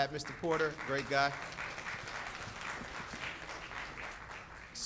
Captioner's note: audience claps